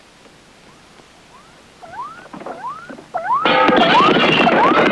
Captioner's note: electronic beeping; window smashes